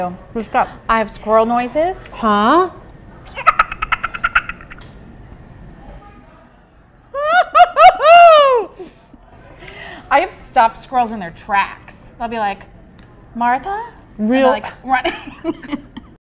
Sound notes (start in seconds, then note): 3.3 squirrel noise; 7.1 laughs